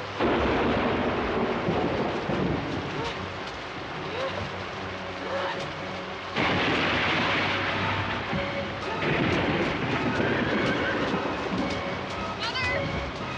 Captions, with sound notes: (thunder blasting) (Kate grunting) (horse whinnying) - Mother stop!